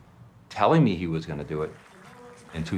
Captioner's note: applause